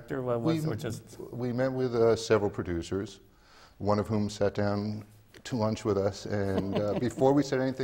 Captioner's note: laughs